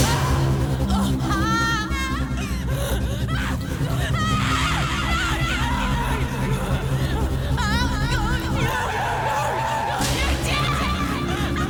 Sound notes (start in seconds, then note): 0.2 suspenseful music; 1.6 screaming; 11.4 screaming